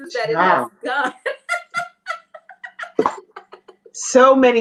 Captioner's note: laughs